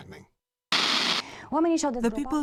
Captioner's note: static